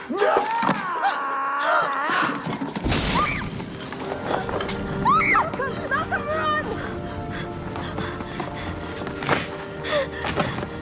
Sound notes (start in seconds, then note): 1.5 gasp; 5.0 screaming